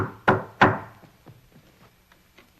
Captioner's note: knocking on door